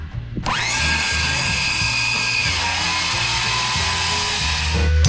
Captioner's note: saw noises